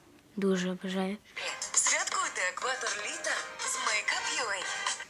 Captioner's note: sound from the advertisement